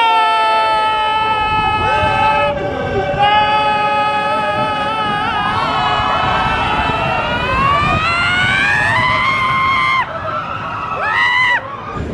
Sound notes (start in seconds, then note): 0.0 group screams; 6.5 riders screaming; 9.0 screaming